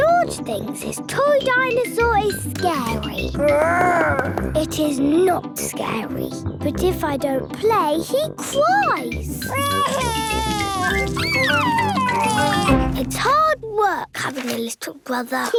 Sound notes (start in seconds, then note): 3.4 growls; 9.5 crying